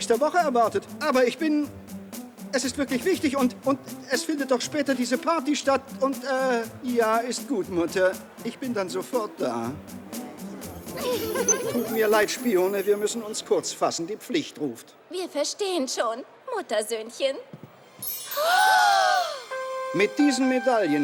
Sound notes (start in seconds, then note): 12.9 giggling